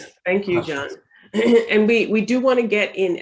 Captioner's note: clears throat